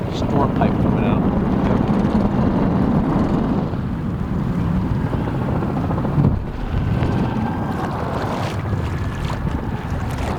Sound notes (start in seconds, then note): 2.5 water splashing